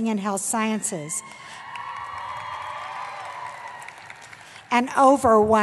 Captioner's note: cheering